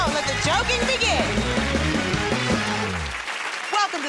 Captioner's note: cheers and applause